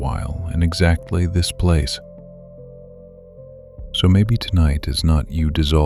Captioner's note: soft and reassuring